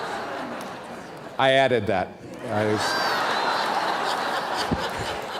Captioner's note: laughter; laughter